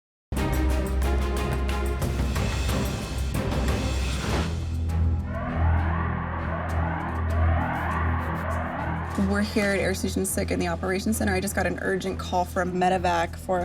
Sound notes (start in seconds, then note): 1.1 tense music; 5.3 alarms sounding